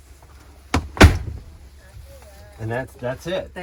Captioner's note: latches clicking